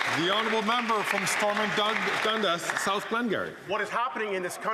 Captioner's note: some Applause